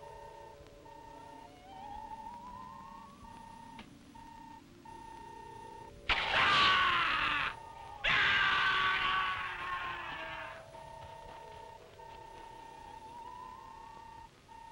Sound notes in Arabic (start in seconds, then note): 1.9 صوت الروبوت; 6.3 حارس يصرخ; 11.8 صوت الروبوت